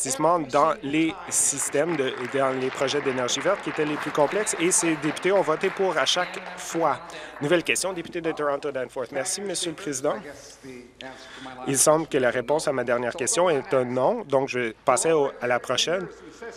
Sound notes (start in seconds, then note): 5.6 applause